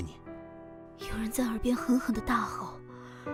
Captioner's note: someone is shouting furiously in my ear